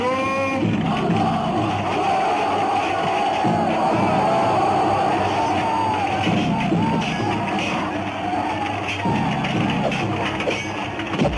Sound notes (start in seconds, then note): 1.6 all shouting; 1.6 weapons clanging